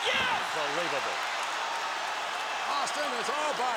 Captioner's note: crowd cheering